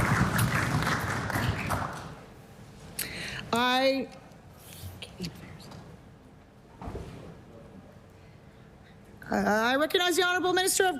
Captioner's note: applause